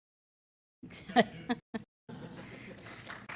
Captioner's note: laughing; applause